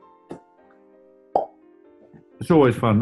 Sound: pops cheek

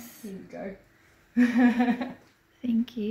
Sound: laughs

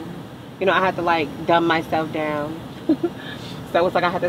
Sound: laughs

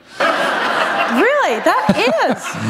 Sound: laughter

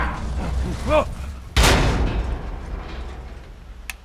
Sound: loud bang

